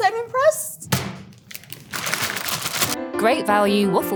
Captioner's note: fries pack thudding; plastic crinkling